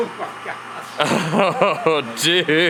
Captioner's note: laughs loudly